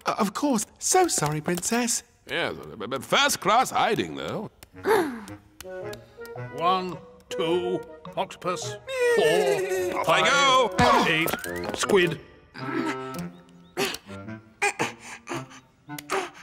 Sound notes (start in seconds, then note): 4.8 sighs; 8.9 neighs